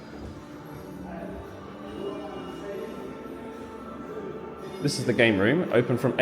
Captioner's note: gentle music; crowd chattering